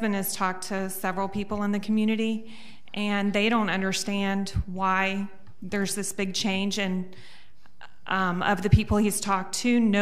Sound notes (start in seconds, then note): none